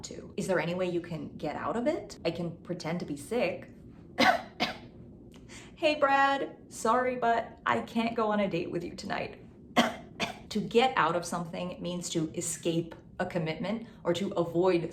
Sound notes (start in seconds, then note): 4.2 coughs; 9.8 coughs